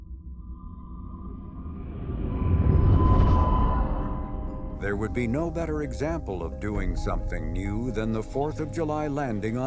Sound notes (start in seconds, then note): 1.3 engine roaring